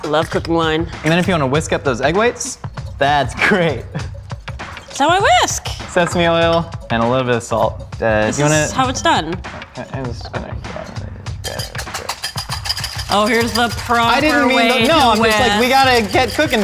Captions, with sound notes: - Love cooking wine. - Then if you want whisk up those egg whites that's great. - That's how I whisk. - Sesame oil and a little bit of salt. - This is how it's done. (murmurs) - Oh, here's the proper way - I didn't mean, no - To whisk - it's like we